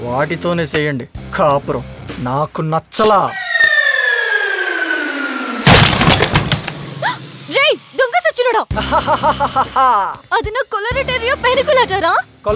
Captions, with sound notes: Then marry them. I don't like this. (Pot shatters) You rascal! (Laughs) That's my favorite exotic plant.